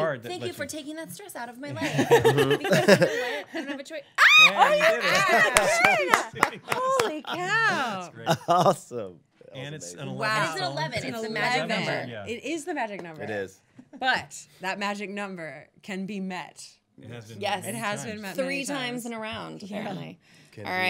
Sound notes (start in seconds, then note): 1.7 laughing; 4.4 squealing